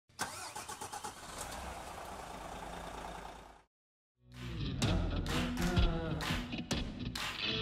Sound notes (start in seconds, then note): 0.2 engine purring; 4.4 gentle upbeat music